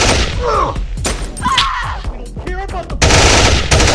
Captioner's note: person screaming; guns banging